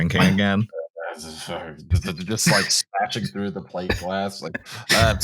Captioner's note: mutters